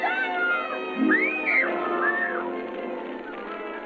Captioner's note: child screaming